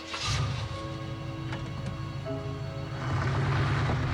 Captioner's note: engine starts